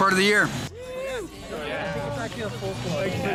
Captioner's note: chatter